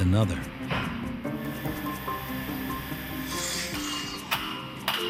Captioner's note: drilling and hammering